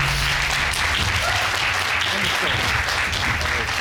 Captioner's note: audience applauds